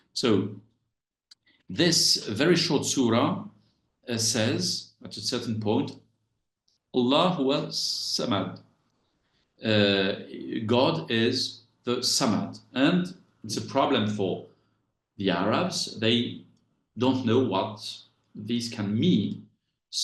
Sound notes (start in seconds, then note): 6.9 speaks Arabic